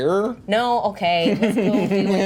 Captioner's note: laughter